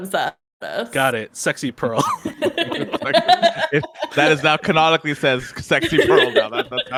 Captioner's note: everyone laughs